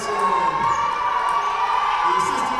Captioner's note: audience cheers